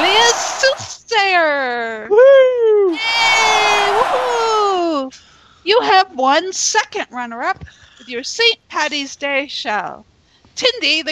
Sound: cheers and Applause

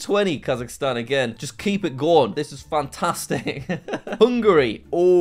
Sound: laughs

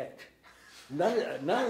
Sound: laughing

